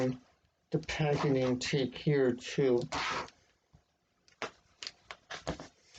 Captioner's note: ripping of packaging tape